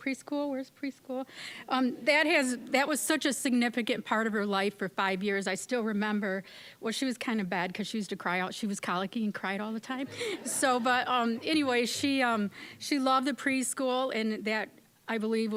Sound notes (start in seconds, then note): 10.0 audience laughing